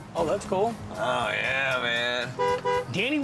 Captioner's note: honks horn